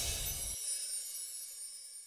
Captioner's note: chime